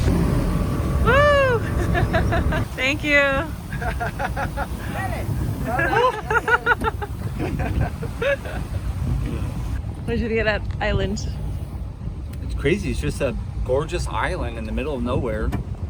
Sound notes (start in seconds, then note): 1.6 laughter; 4.1 people laughing